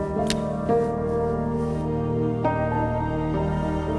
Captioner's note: gun click; soft music